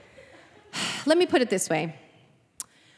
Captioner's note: sighing